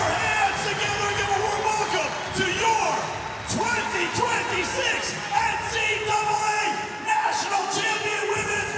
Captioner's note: cheers and applause